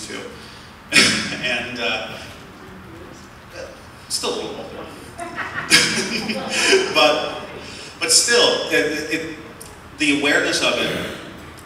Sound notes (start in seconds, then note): 5.1 laughter